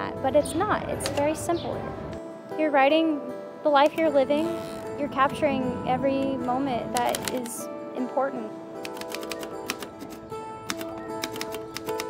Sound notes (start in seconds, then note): 8.4 keying typewriter; 10.9 instrumental music